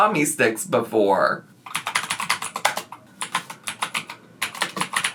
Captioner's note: keyboard tapping